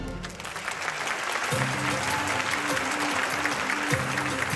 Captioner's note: audience applauding